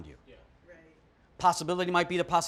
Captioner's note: participants agreeing